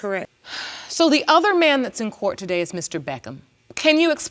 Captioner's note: sighs